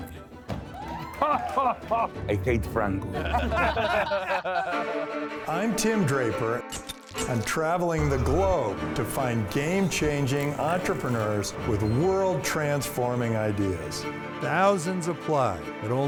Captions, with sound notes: - Oh! [ Laughs ] - I hate Franco. [ Laughter ] - I'm Tim Draper. I'm traveling the globe to find game-changing entrepreneurs with world-transforming ideas. Thousands apply, but